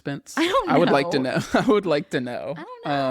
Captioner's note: laughs